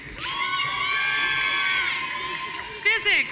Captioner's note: audience cheering